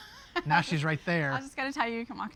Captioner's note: laughs